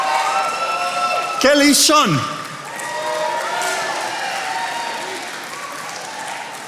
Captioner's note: attendees applauding